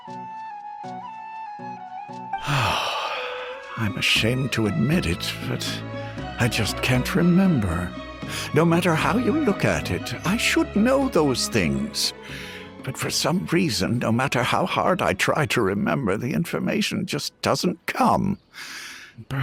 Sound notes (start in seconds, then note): 2.4 sigh